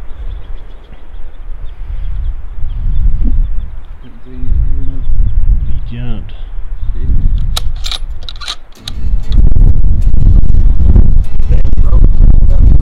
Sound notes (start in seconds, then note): 7.4 bullet cycling; 8.7 mellow Country music